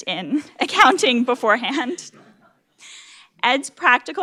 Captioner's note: laugh